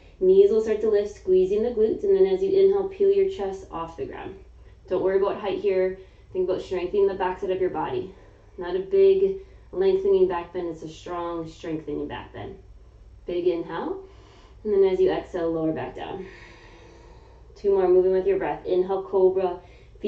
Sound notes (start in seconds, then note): 16.2 exhaling; 16.3 inhaling